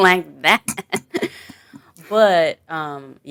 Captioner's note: chuckle